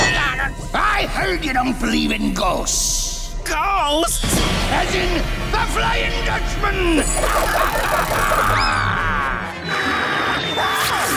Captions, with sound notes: I heard you don't believe in ghosts. Ghosts? As in the Flying Dutchman. [laughing] [screaming]